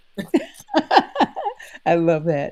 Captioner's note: all laughing